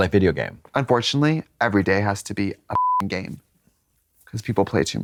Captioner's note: beep